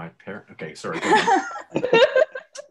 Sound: laughs

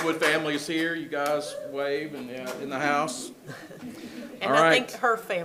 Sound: people laugh

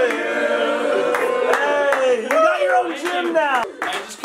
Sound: clapping

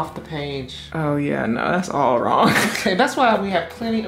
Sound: laughing

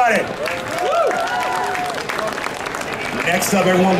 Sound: audience cheering

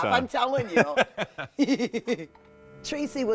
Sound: laughing

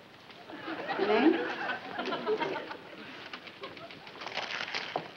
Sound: audience laughs; paper rustling

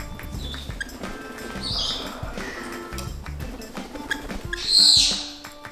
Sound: bird chirps in background

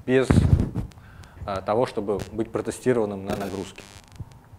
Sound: buzzing continues

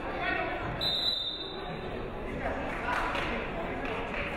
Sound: whistle blows

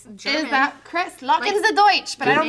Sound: german

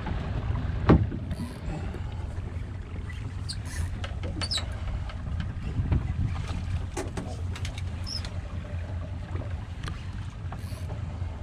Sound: reel cranking; boat enging idling

